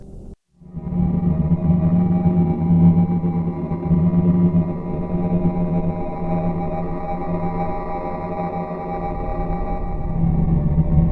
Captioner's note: electric distortions shake and reverberate